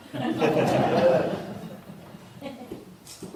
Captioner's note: laughter